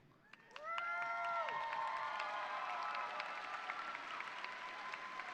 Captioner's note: audience cheering and applauding